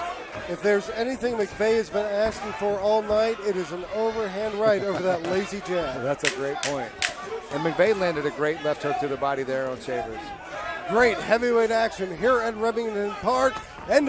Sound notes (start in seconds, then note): 4.6 chuckles